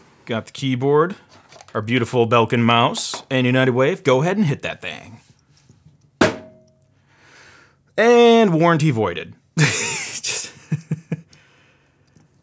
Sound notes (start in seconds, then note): 6.2 smacks; 9.6 laughing